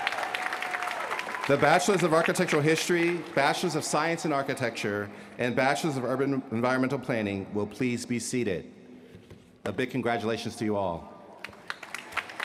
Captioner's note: cheers & applause